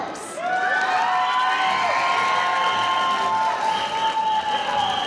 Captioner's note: audience cheering